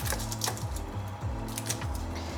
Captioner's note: papery rustle